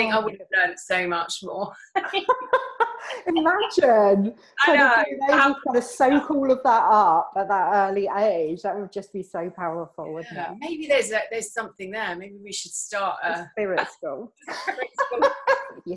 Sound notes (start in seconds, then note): 1.9 laughs